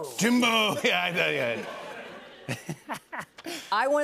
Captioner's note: laughter